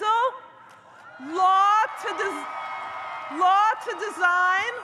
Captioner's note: audience cheers